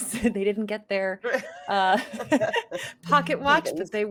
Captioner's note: laughing